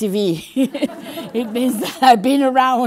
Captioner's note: general laughter